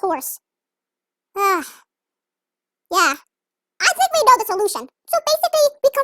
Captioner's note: sighs